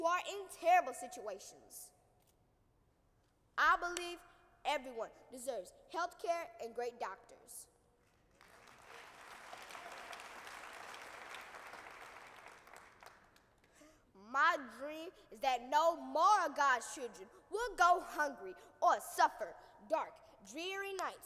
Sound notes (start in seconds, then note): 8.1 applause